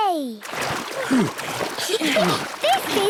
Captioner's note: snorts, giggles; panting